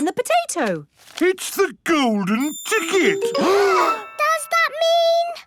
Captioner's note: gasps